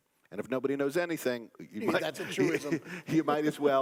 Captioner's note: laugh